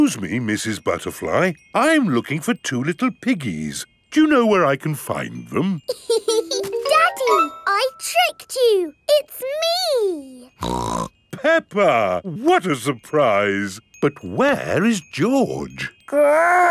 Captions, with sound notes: Excuse me, Mrs. Butterfly, I'm looking for two little piggies. Do you know where I can find them? (LAUGHS) Daddy! I tricked you, it's me! (SNORTS) Peppa! What a surprise! But where is George?